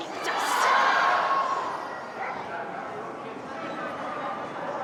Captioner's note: crowd exclaims